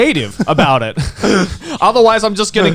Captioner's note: Garnt laughing